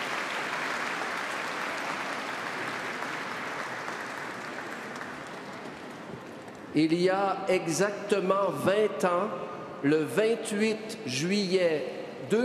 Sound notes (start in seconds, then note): 0.0 singing; 1.6 applause; 11.0 speaking French